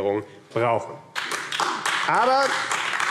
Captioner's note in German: Beifall AfD